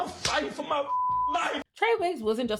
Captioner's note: beep